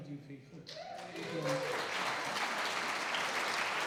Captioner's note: applause